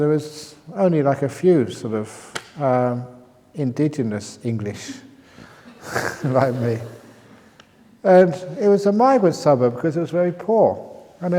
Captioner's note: laughs